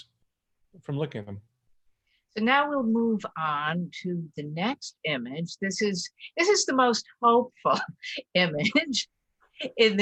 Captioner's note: laughs